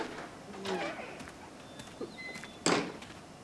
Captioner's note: door squeaks